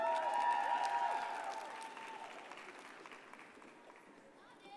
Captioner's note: audience cheers and applauds